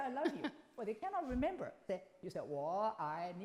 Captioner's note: group laughs